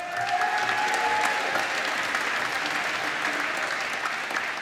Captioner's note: applause